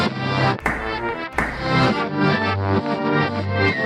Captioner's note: hands smacking